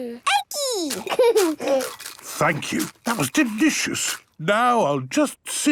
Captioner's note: laughing, crunching